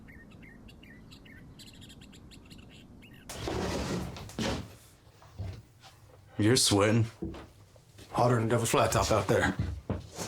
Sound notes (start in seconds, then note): 3.3 door skidding